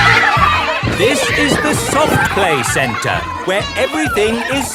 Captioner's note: loudly over shouting